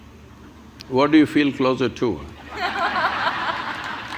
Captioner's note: laughter